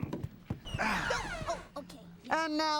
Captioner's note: grunting